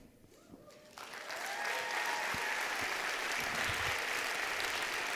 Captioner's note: applause